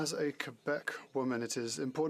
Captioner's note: speaking French